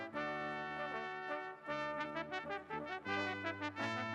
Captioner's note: none